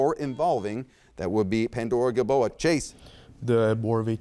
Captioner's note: buzzer beeps